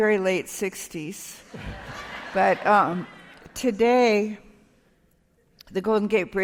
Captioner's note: laughter